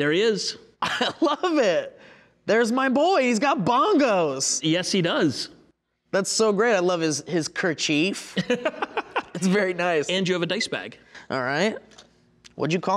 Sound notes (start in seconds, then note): 8.4 laughing